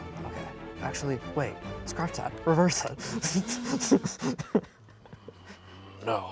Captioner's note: laughs